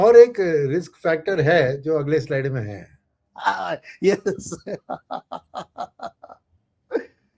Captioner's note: laughter